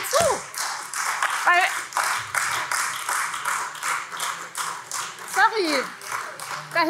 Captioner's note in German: Beifall Freie Demokraten, AfD und vereinzelt BÜNDNIS 90/DIE GRÜNEN